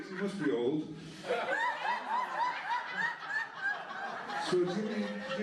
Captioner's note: laughter